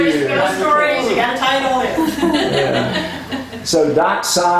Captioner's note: laughter